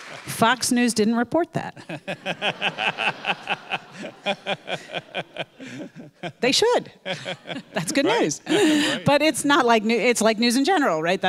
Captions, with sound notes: Fox News didn't report that. (audience laughing) They should, that's good news, but it's not like, it's like news in general, right?